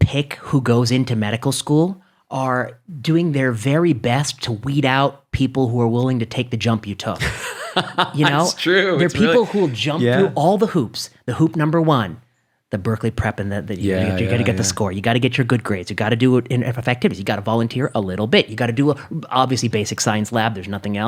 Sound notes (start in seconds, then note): 7.2 laughs